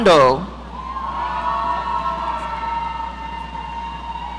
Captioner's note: audience cheering